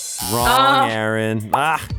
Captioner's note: buzzer buzzing